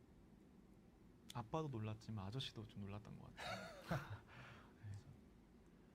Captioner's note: laughs